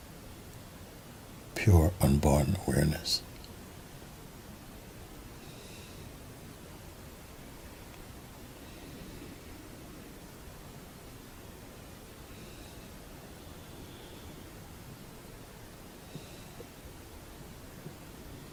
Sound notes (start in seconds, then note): 6.3 silence